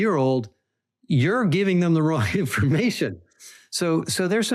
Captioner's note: laughing